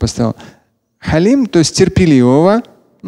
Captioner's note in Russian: Говорит на арабском